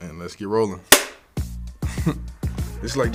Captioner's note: clap